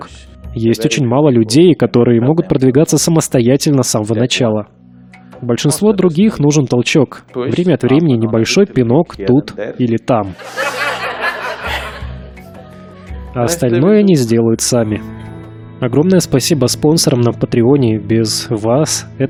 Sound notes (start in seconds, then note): 10.3 Смех; 15.1 Смеется